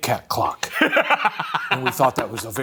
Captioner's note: laughing